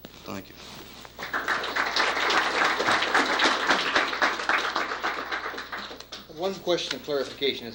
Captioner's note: applause